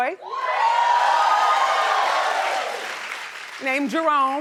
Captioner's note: audience cheering